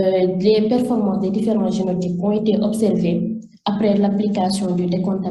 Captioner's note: continues speaking French